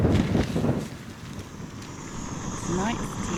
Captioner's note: stove roaring; wind